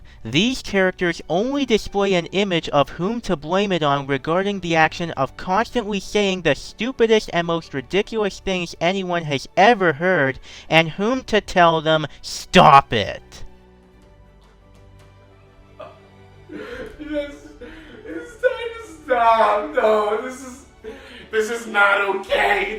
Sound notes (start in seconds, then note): 16.4 sobbing